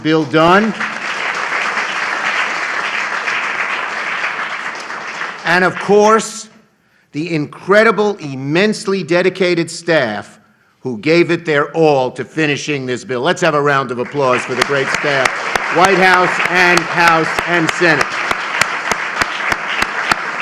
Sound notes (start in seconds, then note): 8.9 applause